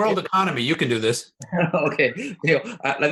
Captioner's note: laughs